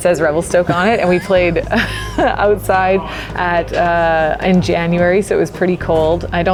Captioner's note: laughs